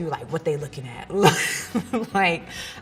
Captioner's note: laughs